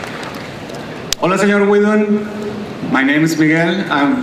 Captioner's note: voiceover